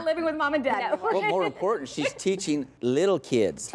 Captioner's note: laughter